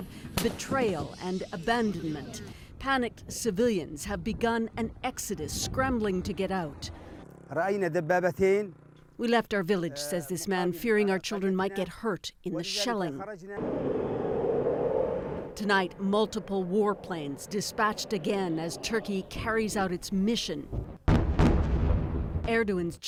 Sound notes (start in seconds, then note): 9.7 speaking foreign language